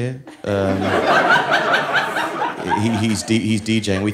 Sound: audience laughing

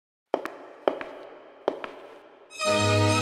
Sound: heels on stage echoing

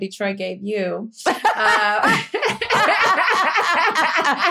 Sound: laughter

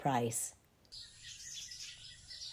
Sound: birds chirping

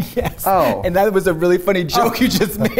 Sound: laughs

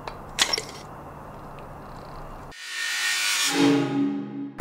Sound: mechanical whirring

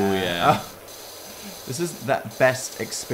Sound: moans

